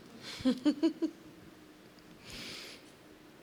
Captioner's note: laughs